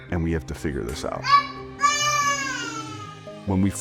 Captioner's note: baby cooing